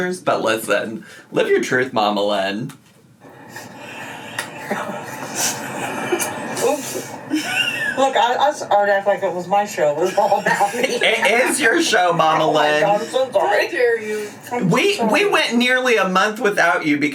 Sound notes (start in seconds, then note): 4.3 laughing; 10.0 laughs